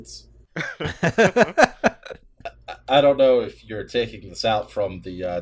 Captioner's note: laughter